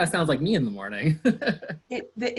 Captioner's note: laughs